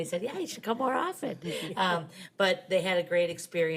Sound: members chuckling

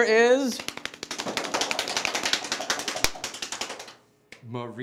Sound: beating

